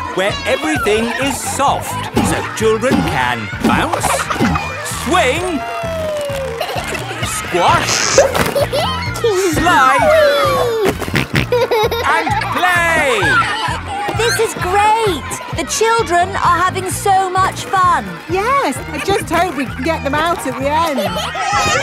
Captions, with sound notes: Where everything is soft, so children can bounce, -swing... -Whee. -Squash... -(GIGGLES) -Slide... -(SNORTING) And play! This is great! The children are having so much fun! Yes. I just hope we can get them out at the end!